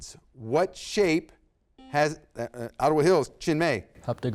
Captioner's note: buzzer beeps